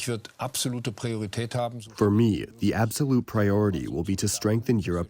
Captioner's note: through translator